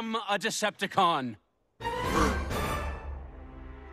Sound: collective gasp

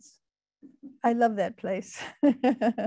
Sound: laughing

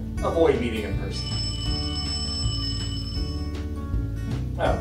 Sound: phone Rings

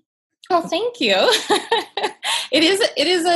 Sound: laughs

